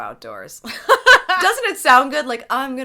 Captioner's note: laughing